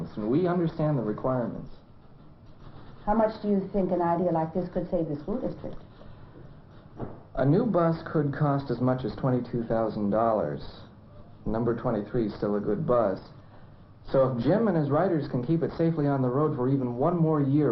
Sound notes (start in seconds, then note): none